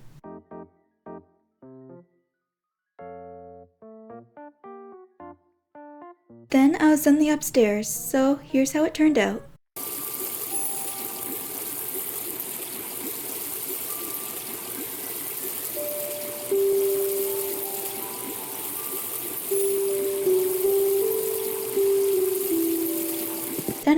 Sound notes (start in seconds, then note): 9.8 water sounds